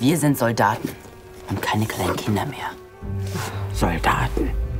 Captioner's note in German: seufzt